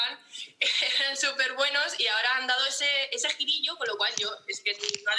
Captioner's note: laughter